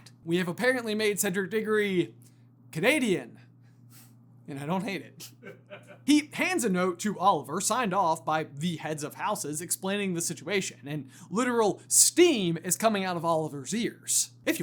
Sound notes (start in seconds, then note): 5.2 laughs